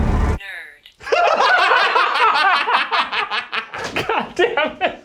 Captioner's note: laughing